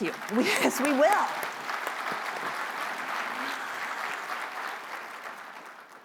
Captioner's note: applause